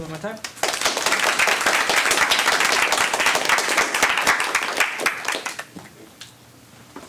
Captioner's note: applause